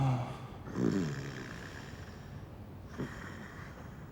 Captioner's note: snoring